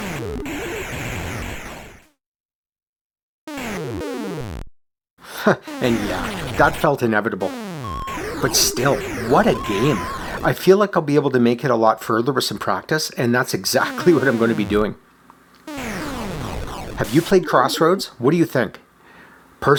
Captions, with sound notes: [chuckles] And yeah, that felt inevitable. But still, what a game! I feel like I will be able to make it a lot further with some practice, and that’s exactly what I’m going to be doing. Have you played Crossroads? What do you think?